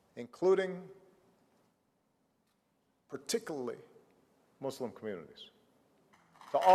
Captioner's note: applause